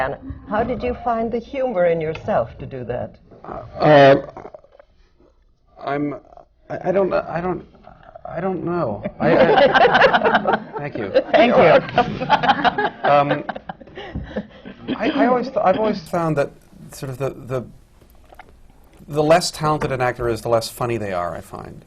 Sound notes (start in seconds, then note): 9.0 laughter